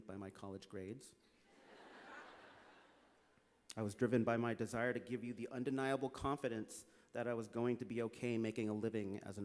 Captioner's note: laughter